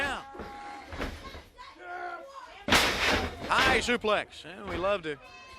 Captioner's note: crowd chatter